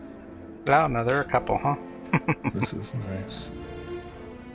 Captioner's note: chuckling